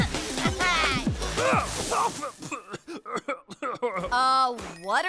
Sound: grunting; choking

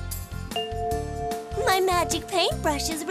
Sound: bell chimes

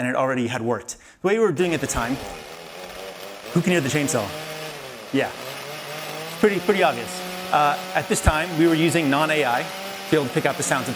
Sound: chainsaw noise

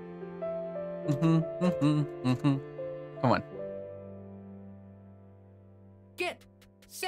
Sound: humming the song

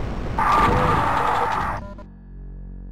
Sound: Revenant noises

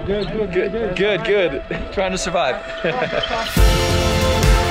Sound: laughing; intense, upbeat music

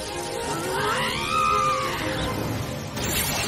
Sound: screaming

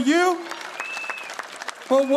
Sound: audience applauding

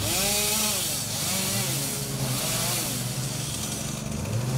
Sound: chainsaw buzzing

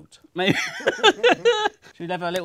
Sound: laughs

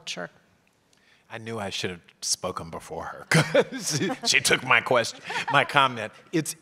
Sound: laugh

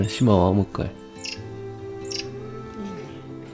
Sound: whimpering

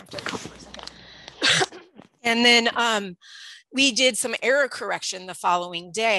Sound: cough

